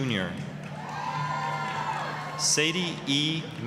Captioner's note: applause, cheering